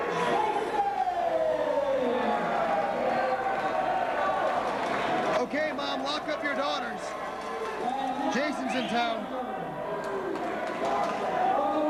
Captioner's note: crowd chatter